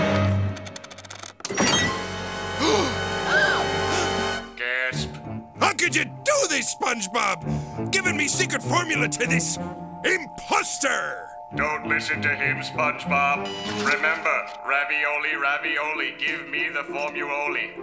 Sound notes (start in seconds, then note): 2.6 gasping